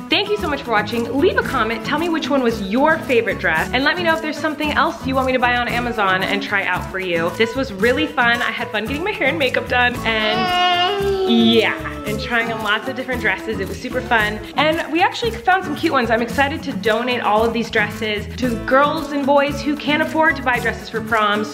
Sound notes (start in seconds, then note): 10.3 babbles